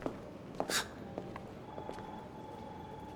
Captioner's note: scoff